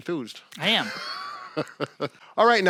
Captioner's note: laughing